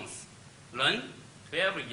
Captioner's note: speaks Chinese